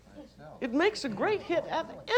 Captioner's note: chatter